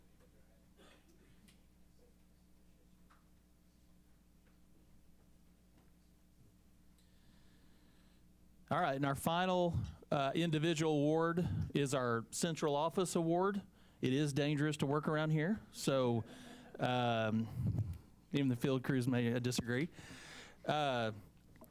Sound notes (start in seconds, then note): 17.5 laughter